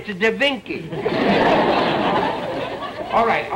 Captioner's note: audience laughter